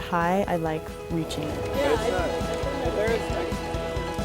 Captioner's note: indistinct chatter